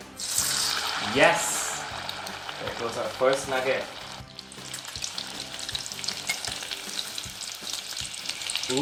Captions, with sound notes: (nugget sizzling) Yes, there goes our first nugget. (nuggets sizzling)